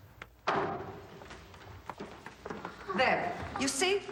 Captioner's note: door rattling